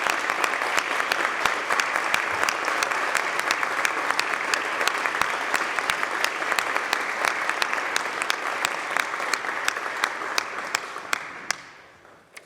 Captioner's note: applause